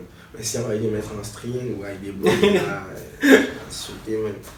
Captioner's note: laughs